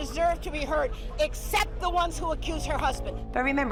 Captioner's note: prolonged beeping